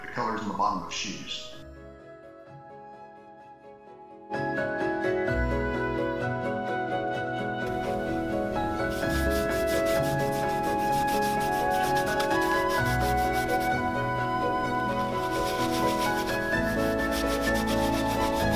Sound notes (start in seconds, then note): 4.4 rubbing leather; 4.4 upbeat orchestral music